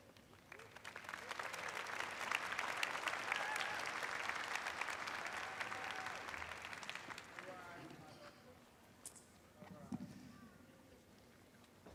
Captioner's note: applause